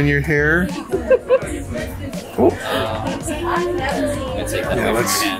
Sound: laughs

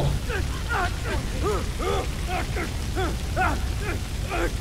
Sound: intense grunting

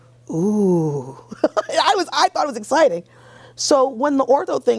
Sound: laughs

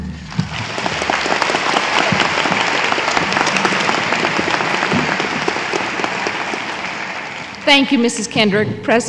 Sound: applause

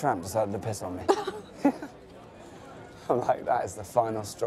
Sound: laughter

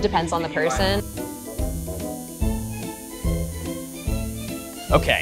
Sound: tattoo machine buzzing

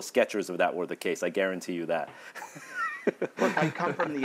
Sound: laughs

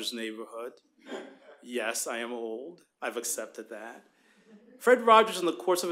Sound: laughter

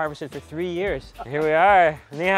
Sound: laughs; speaks in foreign language

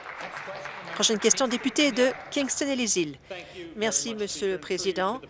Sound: applause

